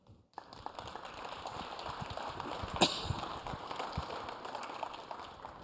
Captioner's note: applause